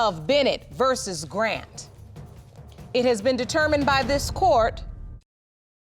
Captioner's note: none